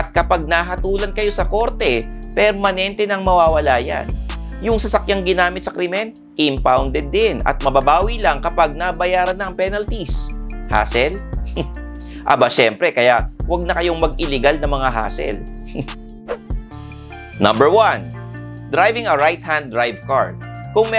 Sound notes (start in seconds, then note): 11.5 giggles; 15.7 chuckles